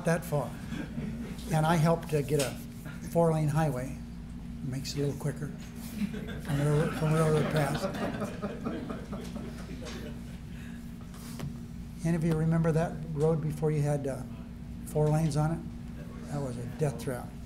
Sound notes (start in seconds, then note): 11.2 laughter